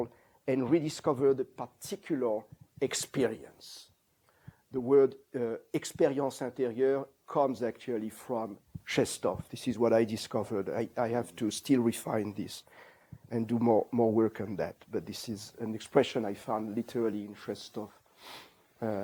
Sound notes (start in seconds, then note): 5.2 non-english